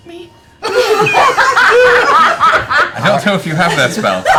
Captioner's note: laughter